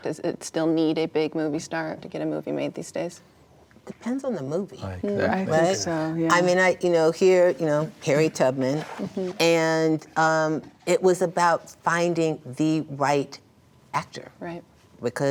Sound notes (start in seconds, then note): 4.8 overlapping agreement